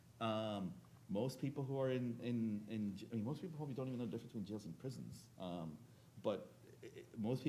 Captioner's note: speaking faintly